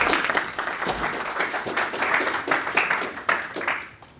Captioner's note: audience applauding